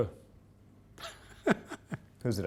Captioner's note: laughter